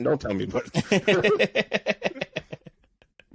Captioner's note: both laughing